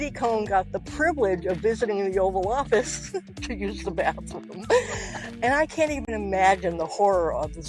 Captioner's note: giggles